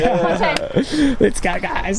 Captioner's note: laughter